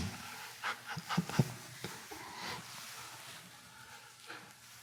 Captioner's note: Eckhart laughing